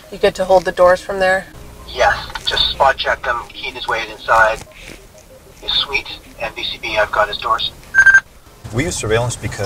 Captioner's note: radio noise